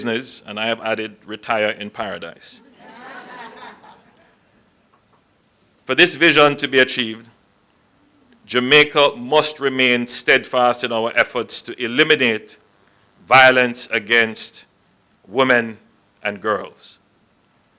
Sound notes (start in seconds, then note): 2.6 laughter